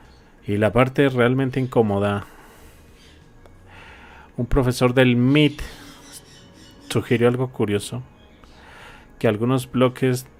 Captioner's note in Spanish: suspiro